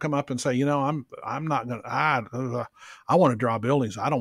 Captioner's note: groans